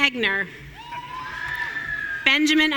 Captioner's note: audience cheering